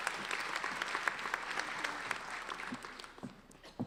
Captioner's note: applauding